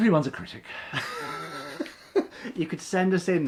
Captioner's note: laughing